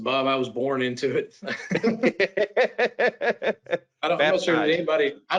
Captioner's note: laughs